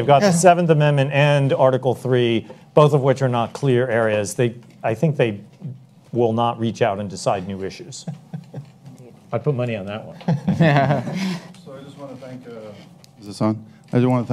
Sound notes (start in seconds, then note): 10.2 audience chuckles